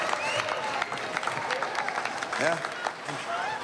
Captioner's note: applause